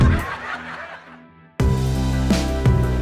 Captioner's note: laughing; audience laughing; upbeat music continues